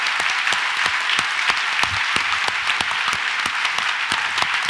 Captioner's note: audience applauds